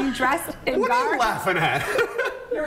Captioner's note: laughter